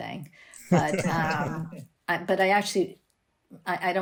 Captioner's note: laughter